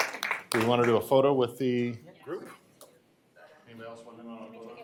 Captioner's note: applause